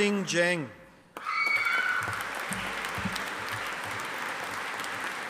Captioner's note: audience applauding